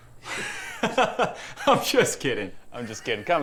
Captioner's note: Christopher stammering; laughing